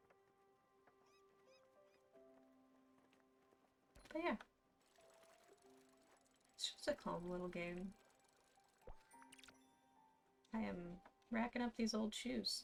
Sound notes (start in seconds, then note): none